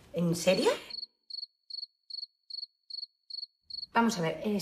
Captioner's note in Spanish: Grillos